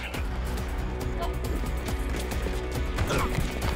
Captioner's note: grunts & Scuffling